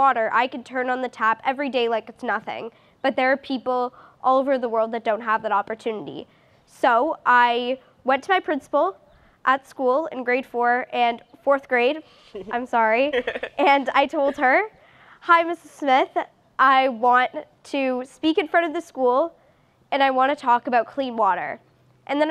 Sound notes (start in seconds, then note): 13.0 laughs